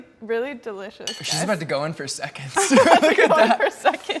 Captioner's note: laughs